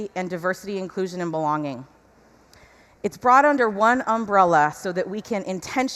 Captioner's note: none